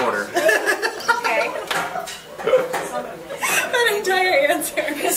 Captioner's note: laughs